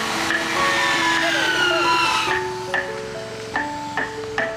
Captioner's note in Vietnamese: la hét